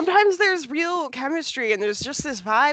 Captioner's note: laughs